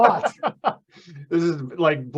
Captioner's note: laughing